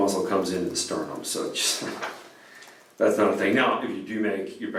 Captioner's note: chuckles